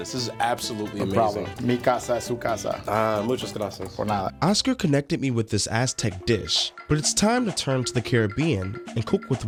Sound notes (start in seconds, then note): 1.9 speaking in foreign language